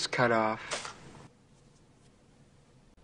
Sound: falling sandwich ingredient crinkles bag

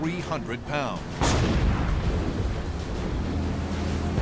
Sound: explosions

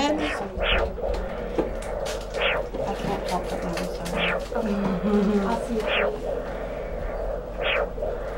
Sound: sound of pulse

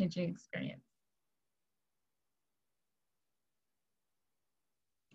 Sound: silence

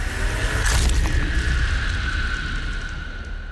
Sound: screams

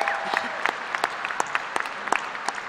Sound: applause

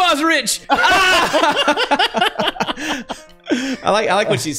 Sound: laughter

